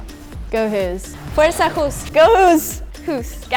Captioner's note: non-english speech; non-english speech